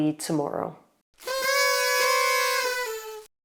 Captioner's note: party horns blowing